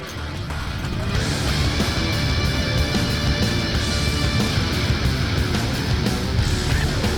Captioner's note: intense rock music continues; motorbike engines roaring